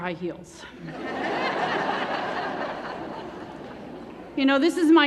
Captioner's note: laughter